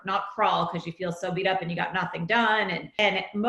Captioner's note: none